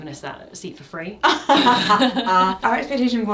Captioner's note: both laughing